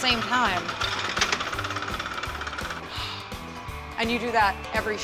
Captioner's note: knocking, ratg sound